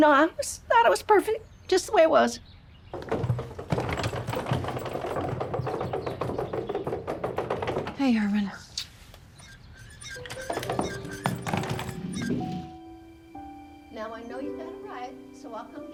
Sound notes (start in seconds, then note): 2.9 rolling luggage; 8.6 blows a kiss; 9.2 creaking